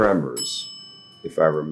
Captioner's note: bell dinging